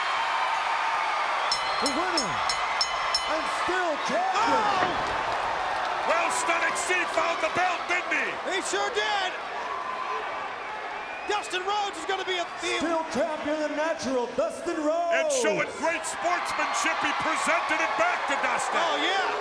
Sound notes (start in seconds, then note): 0.2 crowd cheering; 1.5 bell ring; 9.7 crowd chatter